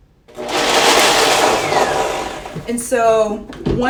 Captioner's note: blender whirring